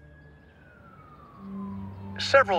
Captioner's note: siren wailing in distance